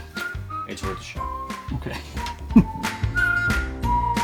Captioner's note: laughter